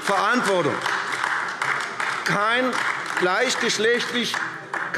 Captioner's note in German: Beifall AfD